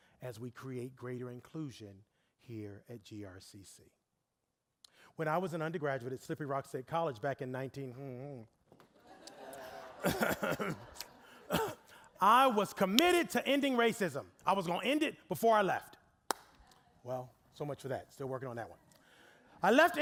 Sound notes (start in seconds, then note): 9.0 audience laughing; 11.4 coughing